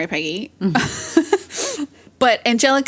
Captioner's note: both laugh